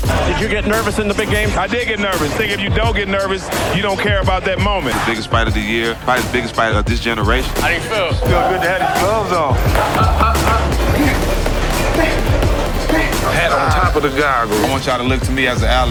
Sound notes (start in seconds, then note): 10.5 dramatic music; 11.4 fighter groaning